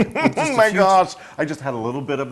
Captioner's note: laugh